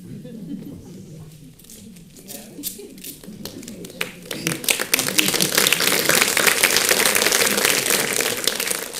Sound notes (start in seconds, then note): 0.0 audience chuckling; 3.0 audience applauding